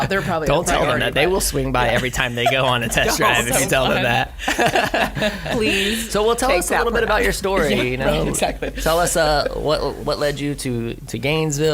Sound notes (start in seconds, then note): 4.0 laughing